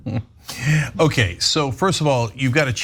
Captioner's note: laugh